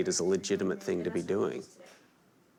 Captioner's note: none